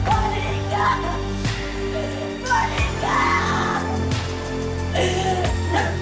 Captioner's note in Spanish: Sollozos